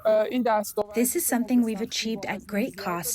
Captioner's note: through translator